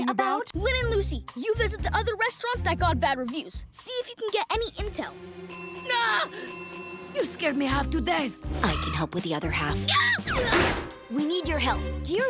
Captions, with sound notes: Lynn and Lucy, You visit the other restaurants that got bad reviews. See if you can get any intel. [bell ringing & yelling] You scared me half to death. I can help with the other half. [yelling] We need your help. Do you remember